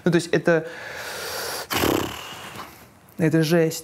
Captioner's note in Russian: громко вдыхает и выдыхает